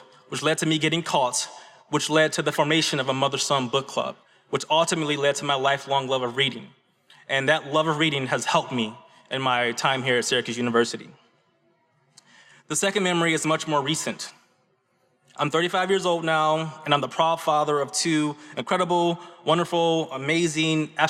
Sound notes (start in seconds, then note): none